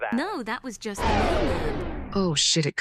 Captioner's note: electricity zaps